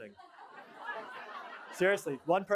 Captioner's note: laughter